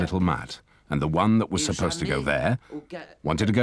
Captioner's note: speaking foreign language